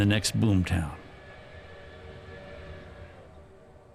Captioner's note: train engine chugging along